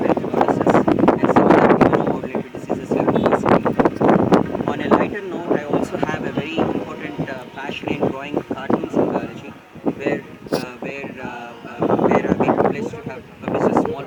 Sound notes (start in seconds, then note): 1.1 wind